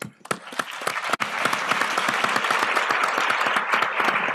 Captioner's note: applause